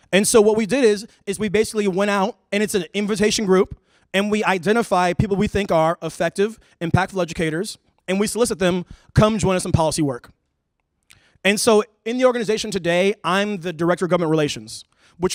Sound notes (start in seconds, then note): none